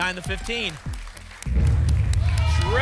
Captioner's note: rumbling sounds